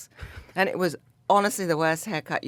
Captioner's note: David laughs